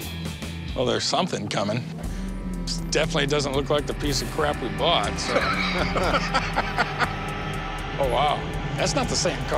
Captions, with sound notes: Well, there's something coming. It definitely doesn't look like the piece of crap we bought, so. [laughs] Oh, wow. That's not the same car, is it?